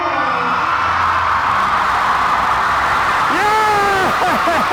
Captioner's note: audience cheering